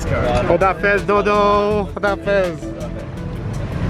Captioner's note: foreign language